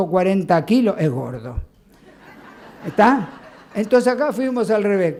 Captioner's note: laughs